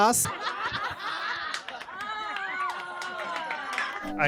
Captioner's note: laughter